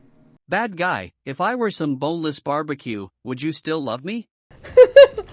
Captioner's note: text-to-speech; laughing